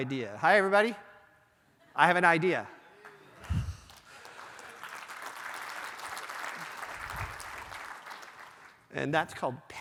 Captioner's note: applause